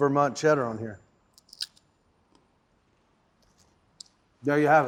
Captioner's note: crunching sound